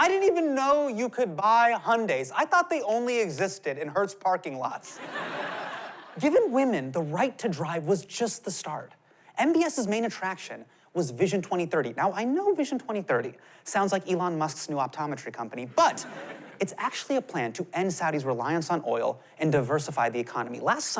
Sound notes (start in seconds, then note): 4.9 laughter